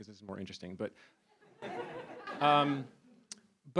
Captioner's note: laughter